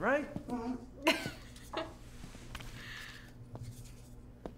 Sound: June laughs

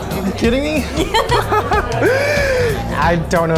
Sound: laughing

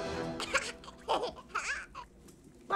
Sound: giggling

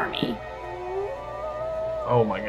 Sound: wolf howling

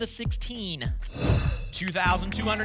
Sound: whoosh

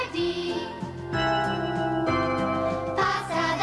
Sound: bells

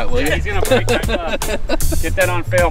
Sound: laughter

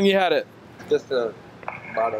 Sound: radio chatter

